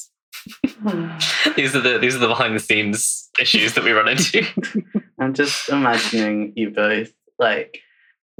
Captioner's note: laughs